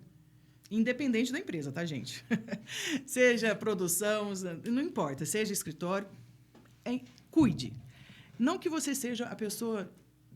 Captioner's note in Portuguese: risadas